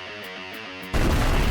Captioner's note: explosion